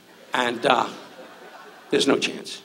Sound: audience laughs

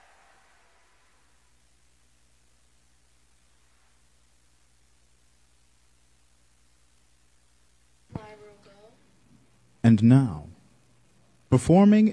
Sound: applause

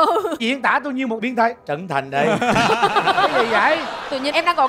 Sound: laughing

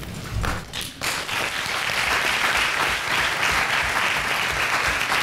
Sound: applause

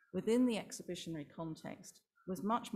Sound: none

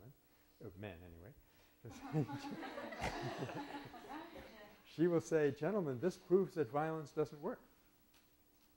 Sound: laughter

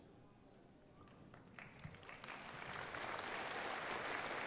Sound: crowd applauding

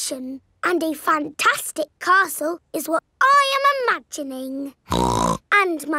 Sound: snorts

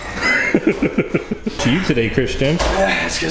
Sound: laughing

